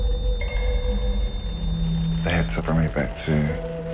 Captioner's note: beeping